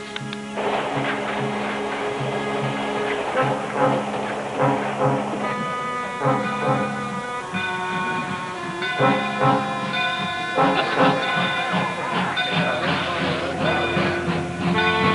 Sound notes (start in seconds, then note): 0.1 tense music; 6.3 train bell tolling; 11.3 indistinct chatter; 14.7 train bell tolling